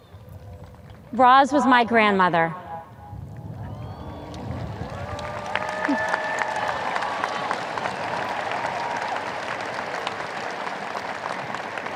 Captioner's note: audience cheers